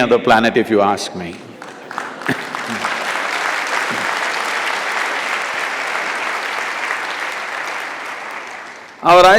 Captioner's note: applause; laughs